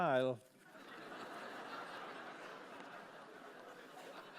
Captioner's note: laughter